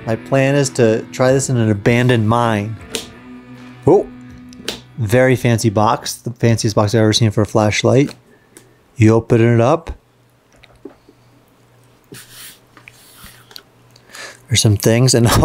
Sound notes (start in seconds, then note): 2.9 lock clicking